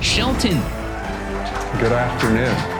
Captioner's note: applause and cheering